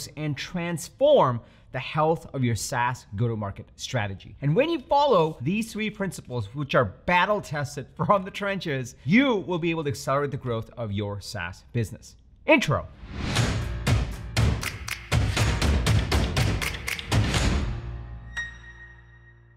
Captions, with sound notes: and transform the health of your SaaS go-to-market strategy. And when you follow these three principles which are battle-tested from the trenches, you will be able to accelerate the growth of your SaaS business. Intro. (logo whooshes) (energetic music)